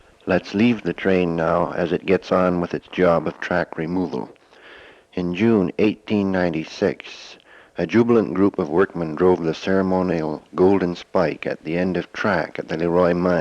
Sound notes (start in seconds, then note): none